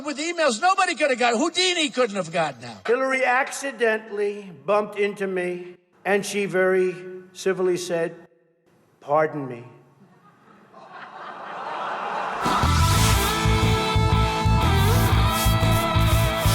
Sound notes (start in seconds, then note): 10.0 laughing; 12.4 rock music